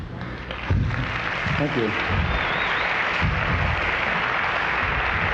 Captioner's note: audience applauds